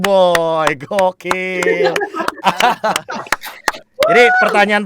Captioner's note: claps